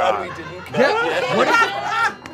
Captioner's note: all laughing